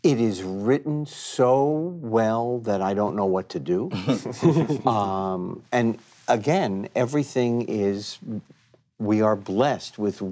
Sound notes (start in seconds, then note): 3.9 group chuckling